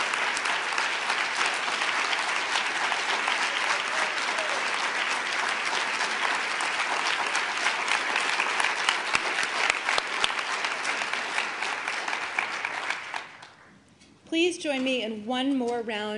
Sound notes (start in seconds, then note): 0.0 applause